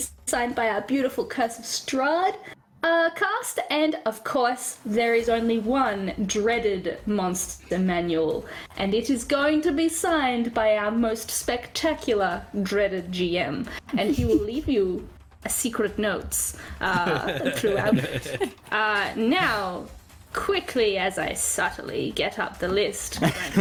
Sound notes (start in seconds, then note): 16.8 all giggle; 23.2 all laughter